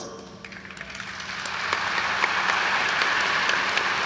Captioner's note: audience applauds